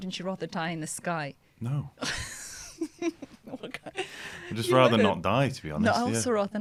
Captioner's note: laughter